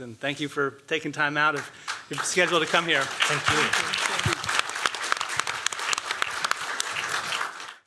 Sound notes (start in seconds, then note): 4.0 applause